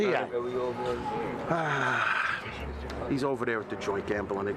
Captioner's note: sighs